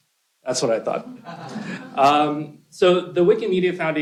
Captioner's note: laughter